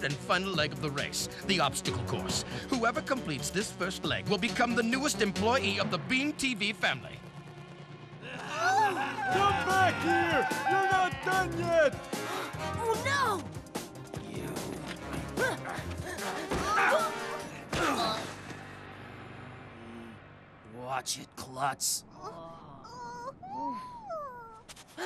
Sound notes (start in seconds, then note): 8.2 groaning; 9.2 gasping